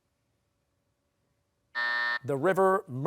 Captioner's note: buzzer